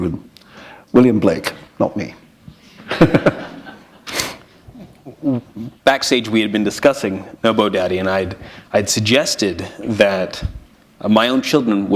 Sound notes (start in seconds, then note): 2.8 chuckle